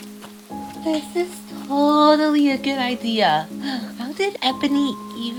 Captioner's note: sigh